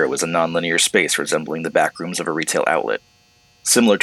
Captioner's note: none